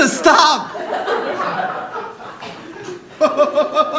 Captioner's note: audience laughing; man laughing